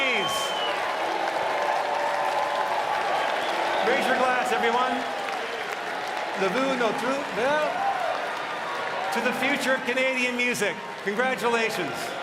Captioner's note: cheering and applause